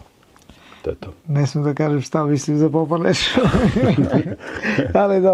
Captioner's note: laughs